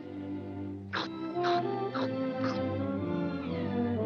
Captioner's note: huffing and puffing